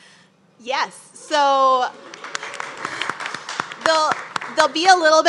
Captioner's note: group claps